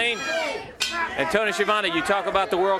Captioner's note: bell ringing